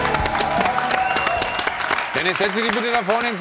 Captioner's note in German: Jubel, Applaus